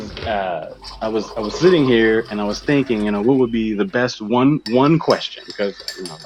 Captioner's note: water pouring into mug sound; stirring and cluttering sounds